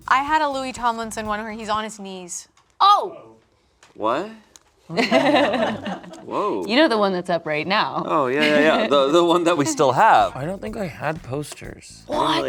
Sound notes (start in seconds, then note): 4.9 group laughs